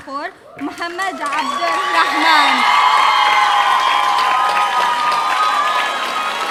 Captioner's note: audience cheering